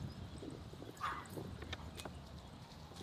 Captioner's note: dog barking in the background